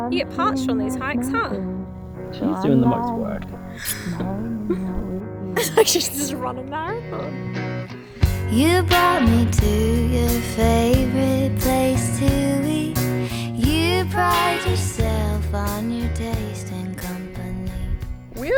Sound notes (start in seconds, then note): 8.3 laughs